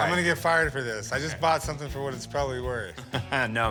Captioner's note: laughs